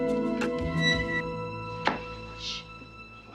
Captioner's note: gate creaks